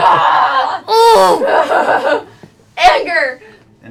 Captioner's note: laughter; yells